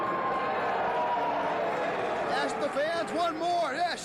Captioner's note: cheers and applause